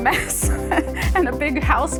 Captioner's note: laughing